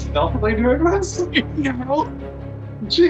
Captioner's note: chuckle